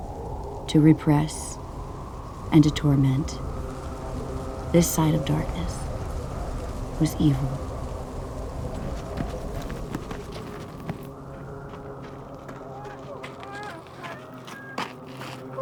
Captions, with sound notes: to repress, and to torment. This side of darkness was evil. [Heavy footsteps] [Baby cries]